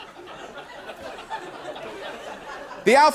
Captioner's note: laughter; laughter continues